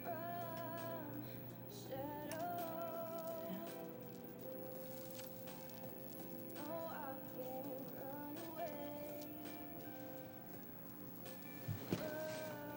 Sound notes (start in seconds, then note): 2.2 beads rattling